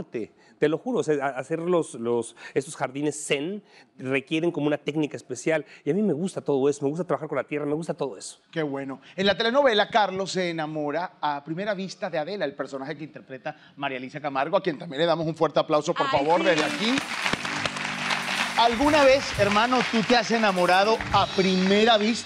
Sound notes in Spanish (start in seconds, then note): 16.1 Aplausos